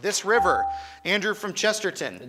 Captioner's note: buzzer chimes